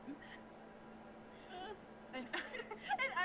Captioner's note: laughter